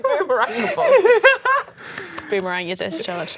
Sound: laughing

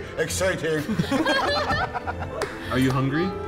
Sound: laughing

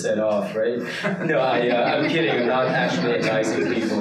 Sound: participants laughing

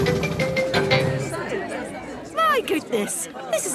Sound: all murmuring

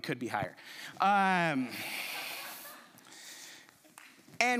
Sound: chuckles

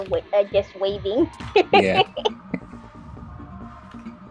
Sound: laughing

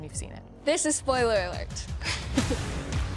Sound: laughs; upbeat music

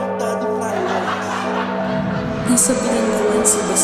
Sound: students laugh

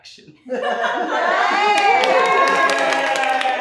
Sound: all laugh and cheer; clapping

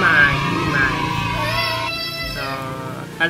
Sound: our baby crying haha

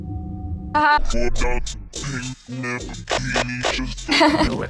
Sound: video buzzing; woman laughing

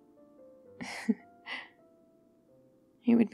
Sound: laughs

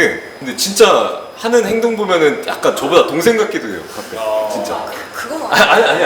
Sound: surprised

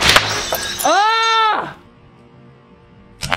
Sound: glass Breaks

